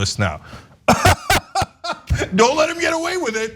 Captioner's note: laugh